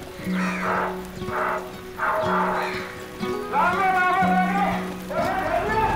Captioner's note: dog barking; man shouting in native language